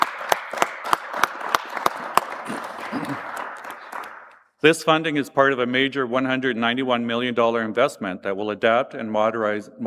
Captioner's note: applause